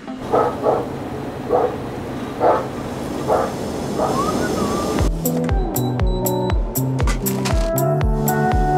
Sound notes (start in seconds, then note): 4.1 melodic whistling